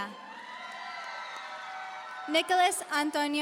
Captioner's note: audience cheering